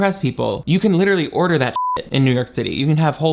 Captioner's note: beep